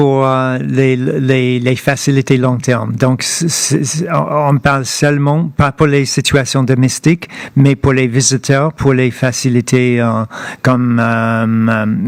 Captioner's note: speaking French